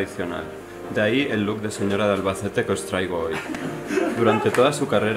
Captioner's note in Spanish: risas